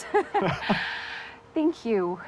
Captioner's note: both laughing